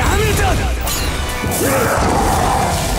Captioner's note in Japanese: 悲鳴